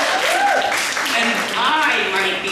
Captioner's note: applause